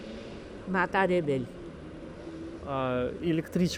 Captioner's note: something in Georgian